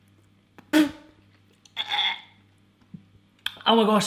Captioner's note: gagging